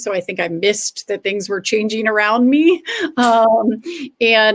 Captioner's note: laughter